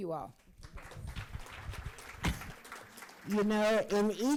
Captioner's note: crowd applauds